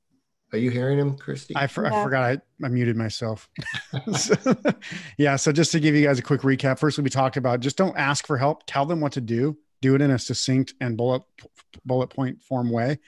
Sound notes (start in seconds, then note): 3.5 laughing